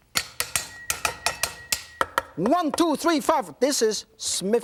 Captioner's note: knife banging